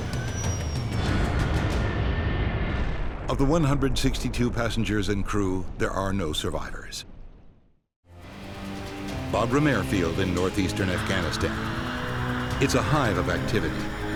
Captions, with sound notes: - [Voiceover] Of the 162 passengers and crew, there are no survivors. Bagram Airfield in Northeastern Afghanistan is a hive of activity